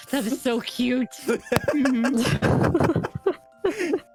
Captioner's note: both laughing